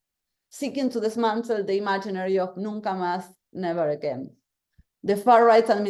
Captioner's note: spanish